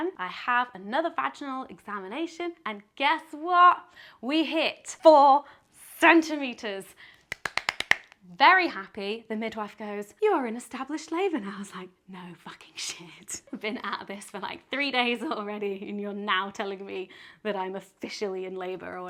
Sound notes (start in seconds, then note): 7.2 claps